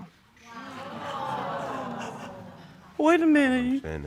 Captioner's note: audience exclaiming